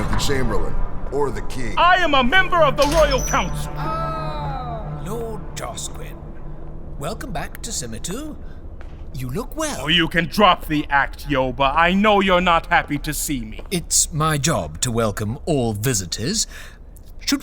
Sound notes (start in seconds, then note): 2.6 sound of sub gate opening